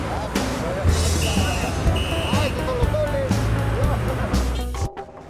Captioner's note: pedestrians chattering; lively music; police whistling